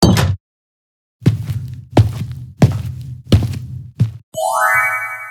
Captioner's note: door closes; footsteps; FX - Chime plays